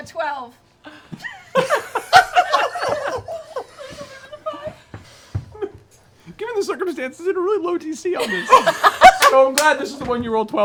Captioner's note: laughs